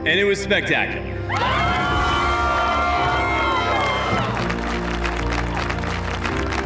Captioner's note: cheering, applause